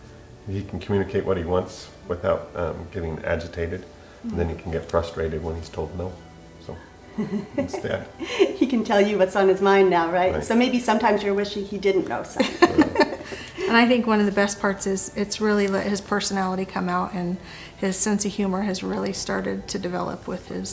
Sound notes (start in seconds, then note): 12.4 laughs